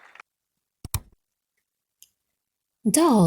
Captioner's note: button clicks